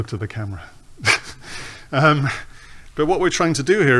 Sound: laughs

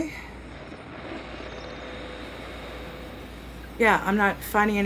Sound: static

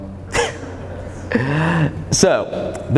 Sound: laughs

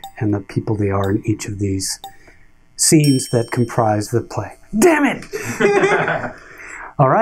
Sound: ding

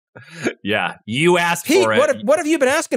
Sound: laugh

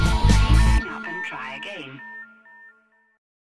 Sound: dial tone

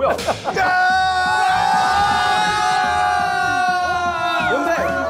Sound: they cheered anyway!

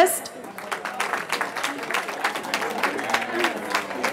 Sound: cheering

